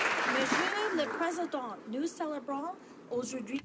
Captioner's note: some applause